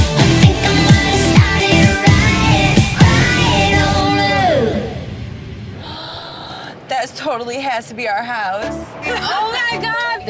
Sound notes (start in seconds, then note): 5.9 gasp